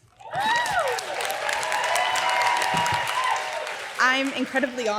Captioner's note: crowd cheering